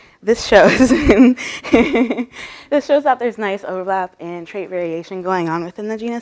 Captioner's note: laughter